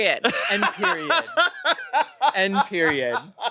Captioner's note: laughs